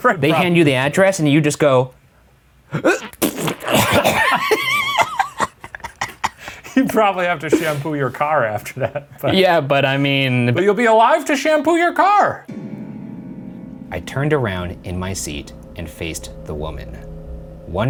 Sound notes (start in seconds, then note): 2.7 gagging; 3.7 laughing; 12.4 dramatic music